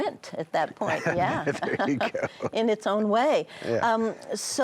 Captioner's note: laughs